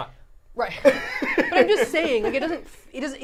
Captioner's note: laughing